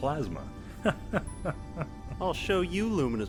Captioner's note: Nyklus laughing